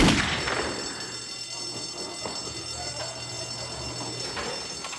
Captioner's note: gunshot; alarm ringing